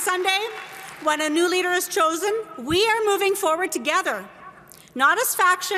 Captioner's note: applause